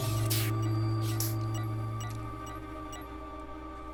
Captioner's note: electronic beeping